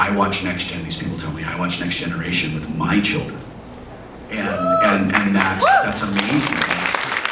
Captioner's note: audience woos and applauds